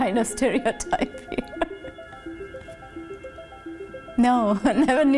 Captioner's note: laughs